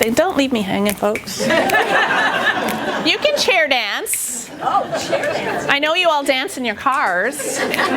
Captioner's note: laughter